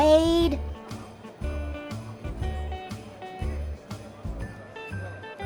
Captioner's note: crowds murmuring